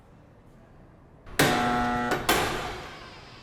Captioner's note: buzzer